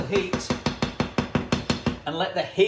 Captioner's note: banging